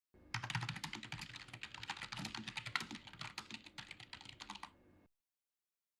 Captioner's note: keys typing